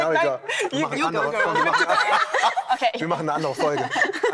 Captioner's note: laughter